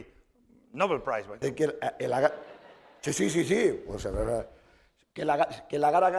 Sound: speaking spanish

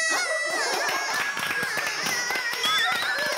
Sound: laughing

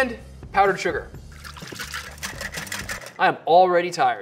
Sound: whisk scraping

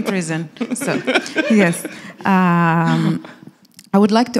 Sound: laughing

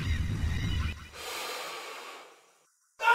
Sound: inhale

